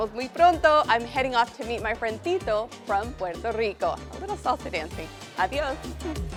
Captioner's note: in Spanish